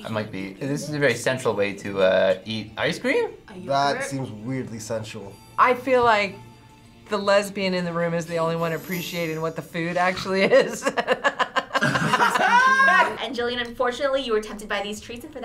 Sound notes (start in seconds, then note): 10.4 laughs